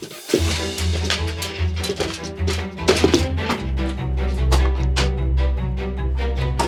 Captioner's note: basketball sounds